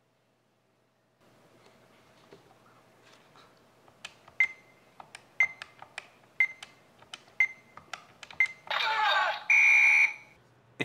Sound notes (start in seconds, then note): 5.4 machine beeping; 5.4 buttons clicking; 9.4 machine whistling